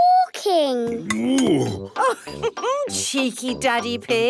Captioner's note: laughs